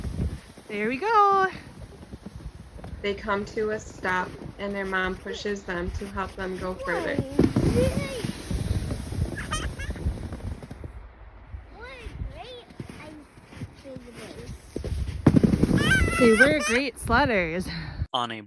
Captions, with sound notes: Adelaide’s mom: There we go. (Girls laughing) Adelaide’s mom: Say we’re great sledders.